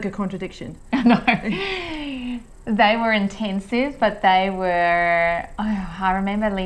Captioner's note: laughs